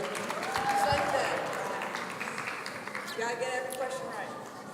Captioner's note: audience applauding